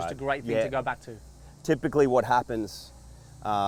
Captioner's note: none